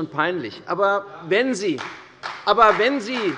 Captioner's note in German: Beifall bei der CDU und dem BÜNDNIS 90/DIE GRÜNEN